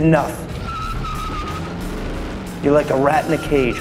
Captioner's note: tires squealing